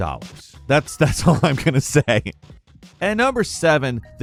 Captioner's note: laughs